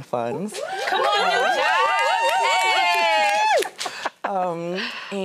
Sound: everybody cheering

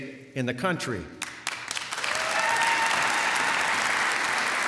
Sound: applause

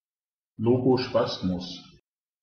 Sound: fast Pronunciation

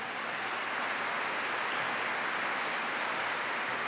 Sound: applause

